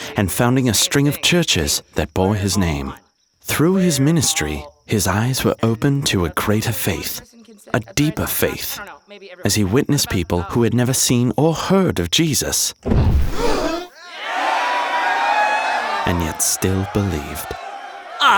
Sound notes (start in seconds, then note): 12.8 air poofing; 13.2 crowd cheering; 13.4 people gasping